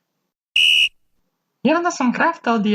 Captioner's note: whistle